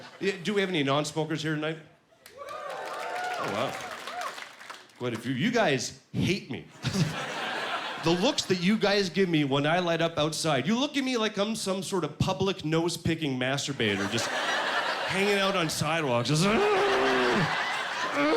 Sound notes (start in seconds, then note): 2.2 cheers; 6.8 laughing; 16.4 grunting